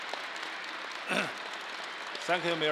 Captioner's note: crowd applause; clears throat